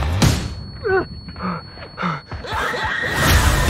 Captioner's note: Argh; Heavy breathing